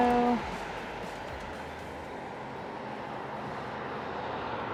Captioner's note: cars buzzing